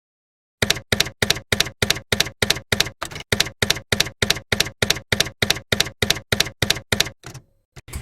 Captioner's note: typewriter keys clacking